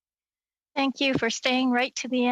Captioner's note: speaking French